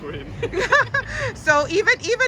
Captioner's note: both laughing